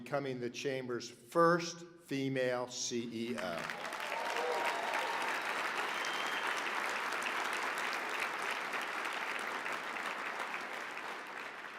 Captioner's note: applause